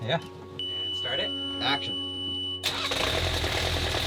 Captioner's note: beep; boat engine roaring